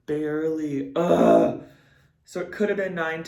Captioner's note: grunts